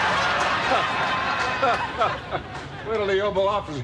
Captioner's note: laughing